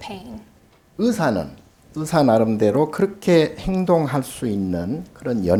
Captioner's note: speaking Korean